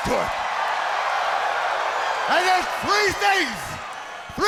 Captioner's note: crowd cheering